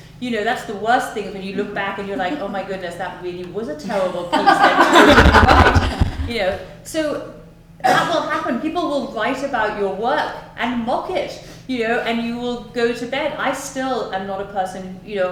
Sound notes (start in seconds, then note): 5.5 laughter